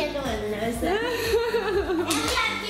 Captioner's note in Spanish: ríe